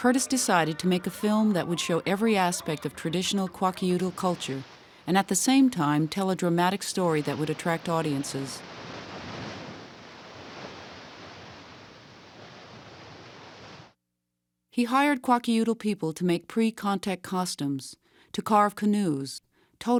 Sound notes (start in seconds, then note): 6.9 water whooshing